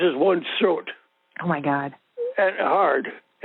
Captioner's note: over the Phone